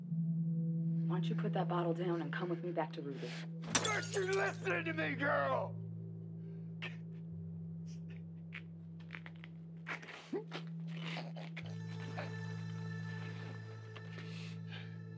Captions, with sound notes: Why don't you put that bottle down and come with me back to Ruby? Aren't you listenin' to me, girl?! ( sobbing )